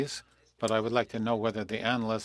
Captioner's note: speaking FRENCH